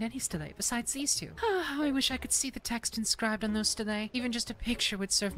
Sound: sigh

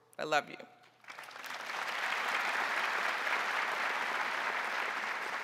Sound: crowd applauding

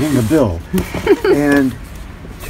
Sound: laughs

